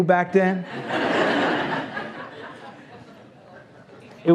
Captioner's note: laughs